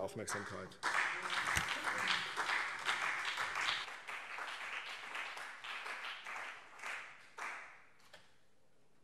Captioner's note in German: Beifall CDU und BÜNDNIS 90/DIE GRÜNEN